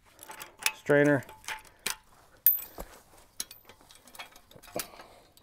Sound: tools clinking

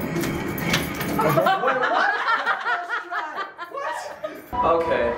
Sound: all laughing

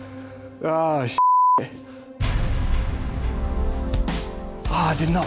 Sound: beep

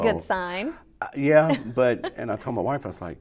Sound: laughs

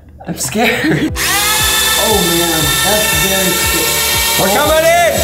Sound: buzzing

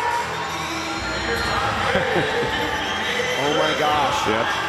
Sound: crowd cheering

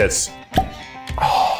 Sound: bottle pops

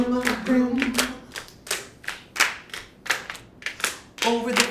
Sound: clapping continues

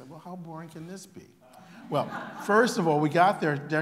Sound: laughter

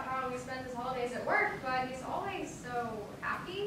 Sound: none

